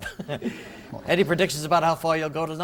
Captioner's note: laughter